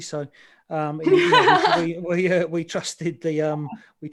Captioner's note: laughs